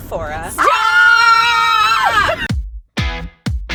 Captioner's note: cheering; upbeat music